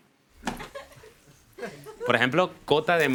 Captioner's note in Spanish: Risas